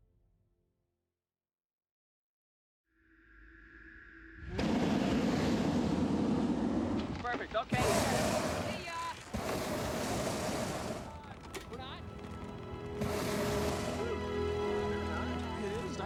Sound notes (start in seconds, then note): 5.0 flame whooshing; 12.7 gentle music